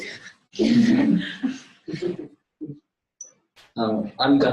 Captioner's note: laughter